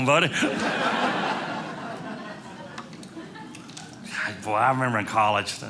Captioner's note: audience laughing